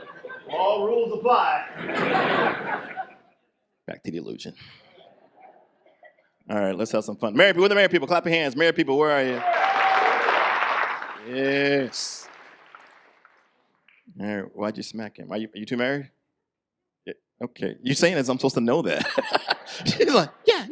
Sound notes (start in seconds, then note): 1.5 audience laughs; 9.3 audience applause; 18.9 laughing